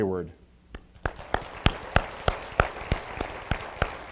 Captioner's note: applause